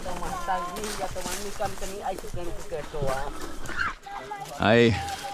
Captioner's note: people speaking foreign language